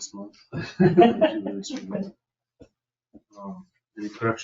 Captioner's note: group laughs